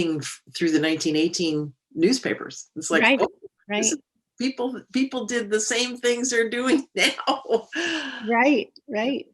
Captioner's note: laughs